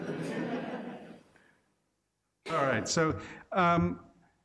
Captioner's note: laughing